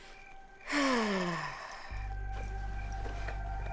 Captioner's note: Rachel sighs